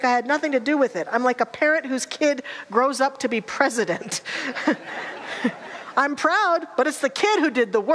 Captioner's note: audience laughter